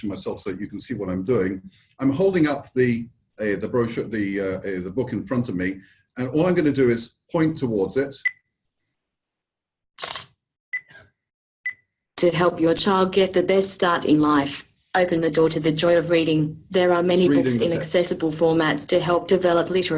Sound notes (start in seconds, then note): 8.2 short beep heard; 10.0 Camera shutter sound followed by beeps from OrCam